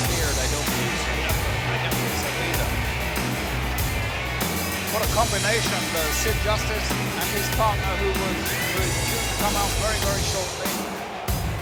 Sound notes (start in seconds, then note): 2.6 crowd cheering